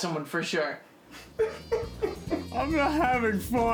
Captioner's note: sobbing